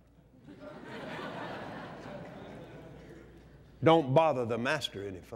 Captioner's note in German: lacht